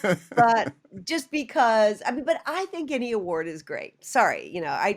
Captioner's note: laughter